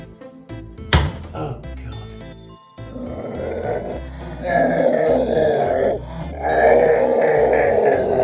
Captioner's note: monster sounds